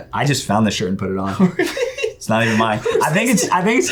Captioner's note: laughs